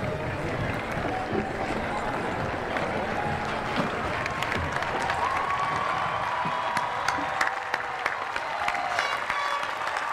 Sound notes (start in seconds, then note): 2.9 cheering; 6.9 applause